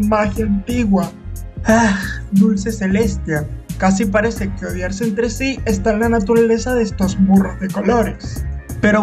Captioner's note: sigh